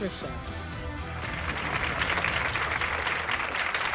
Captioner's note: audience applauds